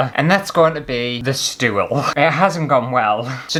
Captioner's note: none